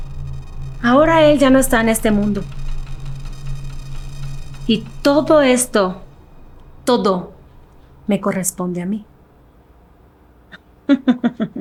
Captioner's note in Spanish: risas